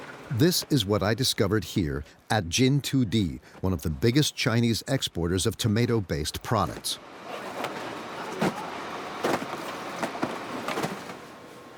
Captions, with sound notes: This is what I discovered here at Jintudi, one of the biggest Chinese exporters of tomato-based products. (boxes clunking)